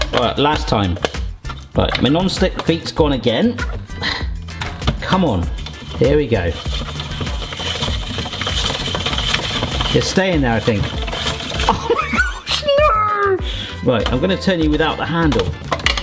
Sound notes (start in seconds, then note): 6.9 spiralizer scraping; 15.7 spiralizer rattling; 15.7 upbeat music